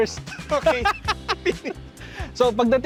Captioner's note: both laugh